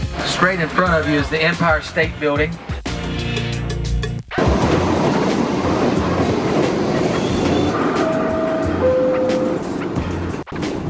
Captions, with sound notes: - Straight in front of you is the Empire State Building. (subway door beeps)